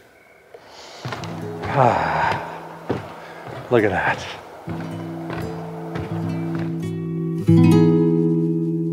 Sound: inhales

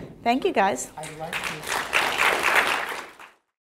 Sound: audience claps

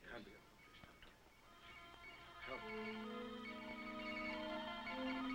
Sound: machine beeping

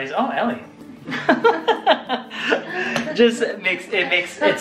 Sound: laughs

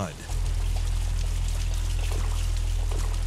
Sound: boat engine humming; water splashing

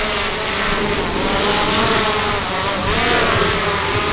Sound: drone running

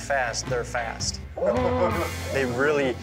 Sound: bear roars

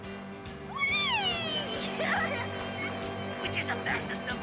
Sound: laughs

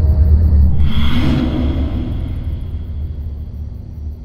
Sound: demonic whispers

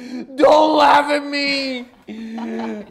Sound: laughing

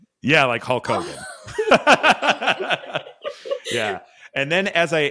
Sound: laughing

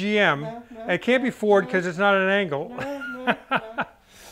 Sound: laughs

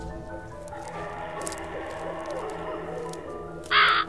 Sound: spooky animal sounds

